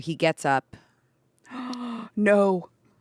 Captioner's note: gasps